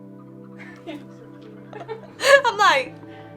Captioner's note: laughs